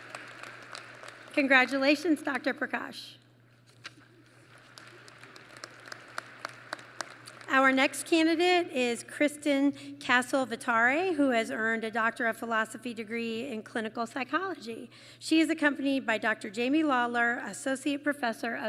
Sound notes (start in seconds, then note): 4.3 applause